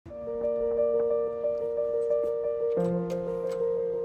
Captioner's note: bright music; door thumping; door clicking